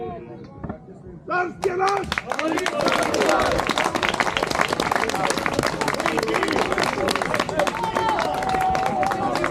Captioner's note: applause